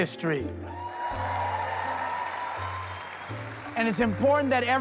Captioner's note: audience cheering